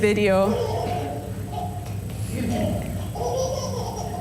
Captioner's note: baby laughing